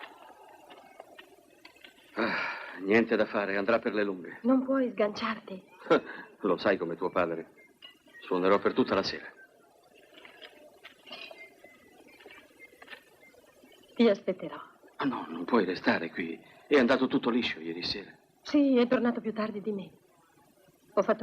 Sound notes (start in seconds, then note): 2.1 sighs; 5.8 laughs